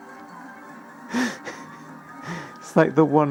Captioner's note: laughs like a GODDAMN RAT